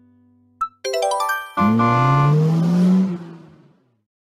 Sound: horn and acceleration

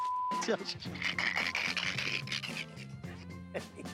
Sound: laughs

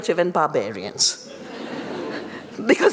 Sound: laughter

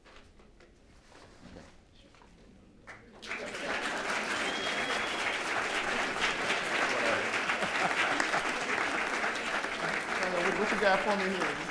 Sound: applause

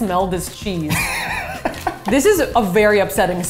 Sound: laughs

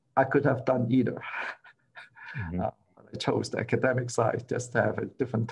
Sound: laughter

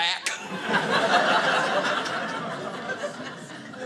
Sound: audience laughing

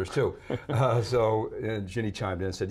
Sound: chuckles

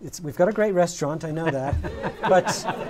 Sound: laughter

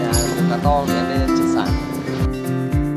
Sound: guides are talking in Vietnamese; hướng dẫn viên nói chuyện bằng tiếng Việt

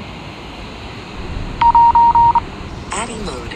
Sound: drone beeps

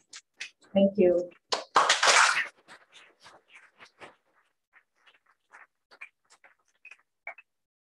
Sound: applause

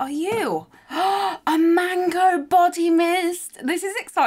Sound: gasps

